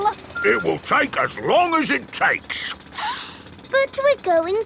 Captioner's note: sniffs